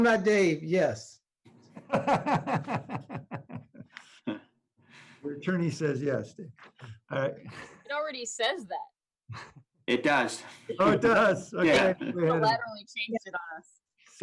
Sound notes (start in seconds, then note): 4.4 laughter